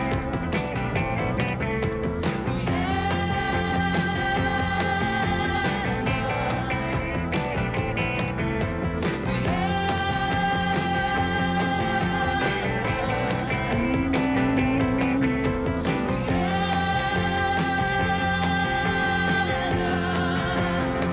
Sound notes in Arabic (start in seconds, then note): 13.8 تدندن